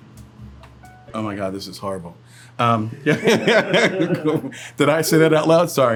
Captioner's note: laughs